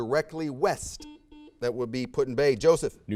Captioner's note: buzzer sounds